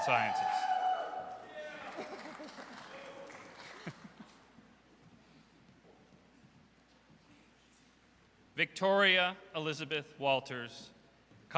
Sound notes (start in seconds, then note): 0.0 audience cheers; 1.8 laughs; 2.5 audience cheers